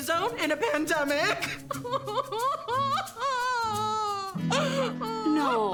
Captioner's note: crying